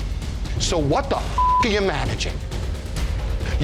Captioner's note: suspenseful music; beep